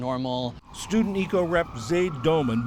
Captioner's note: voice-over